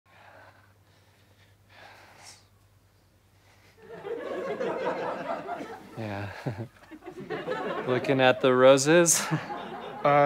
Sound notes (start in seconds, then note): 3.8 audience chuckles